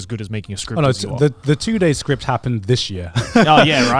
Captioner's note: laughs